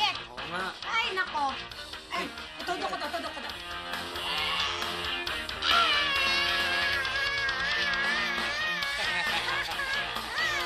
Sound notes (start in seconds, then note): 4.1 cheering; 8.5 both laughing